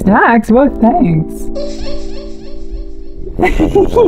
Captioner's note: sprite giggles